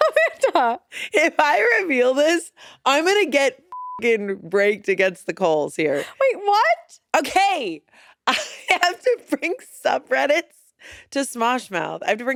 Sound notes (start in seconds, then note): 3.7 beep